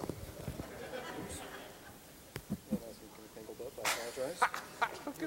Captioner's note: audience laughing